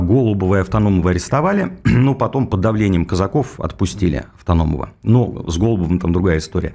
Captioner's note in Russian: откашливается